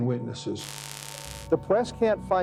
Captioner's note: static